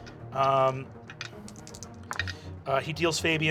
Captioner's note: rolls dice